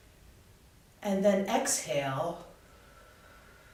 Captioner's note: exhaling